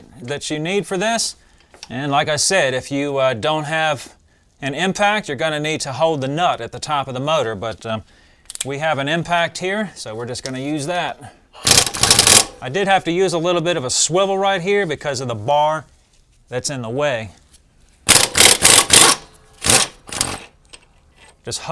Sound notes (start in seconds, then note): 11.6 mechanical sound; 18.0 ratcheting sound